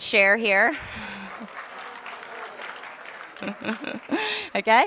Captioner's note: applause